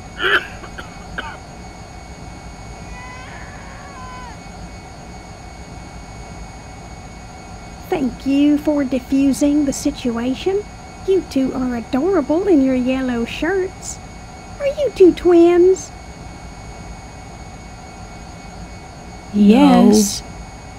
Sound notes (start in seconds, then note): 0.1 passenger coughs; 2.9 baby cries